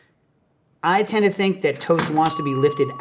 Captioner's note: bell pings